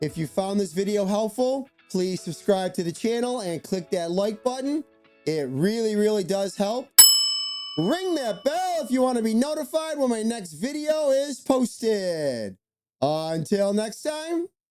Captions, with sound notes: If you found this video helpful, please subscribe to the channel and click that like button. It really, really does help. (bell ringing) Ring that bell if you wanna be notified when my next video is posted. Until next time,